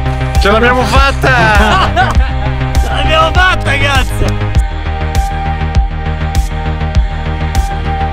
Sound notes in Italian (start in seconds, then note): 1.3 risate